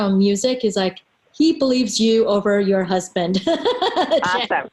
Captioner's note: laughs